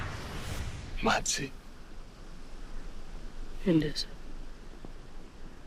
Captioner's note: both speaking foreign language